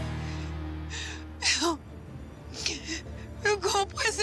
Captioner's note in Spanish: sollozos